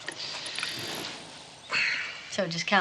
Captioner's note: sighs